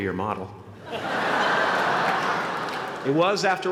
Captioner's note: laughter